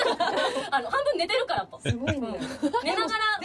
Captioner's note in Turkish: kahkaha